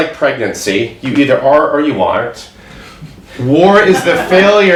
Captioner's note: audience laughs